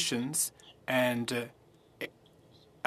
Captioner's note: speaking French